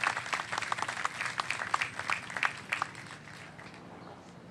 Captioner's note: applause